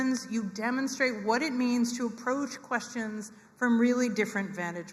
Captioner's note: none